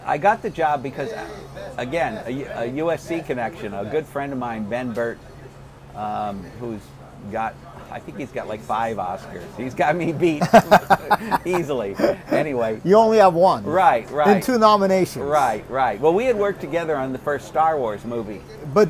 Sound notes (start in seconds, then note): 10.1 chuckling; 10.1 laughs